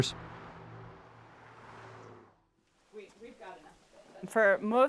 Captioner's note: traffic noises